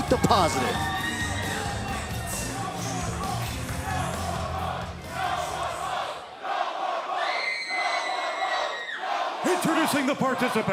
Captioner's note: crowd cheering